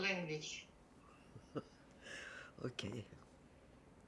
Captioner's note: laughing